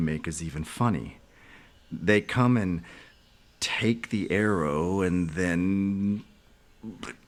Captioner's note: vocalizes